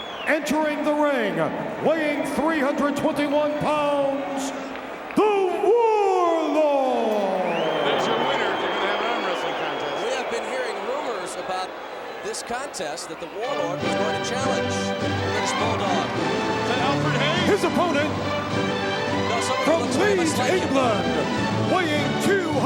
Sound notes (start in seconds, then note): 7.7 audience cheers; 15.9 majestic music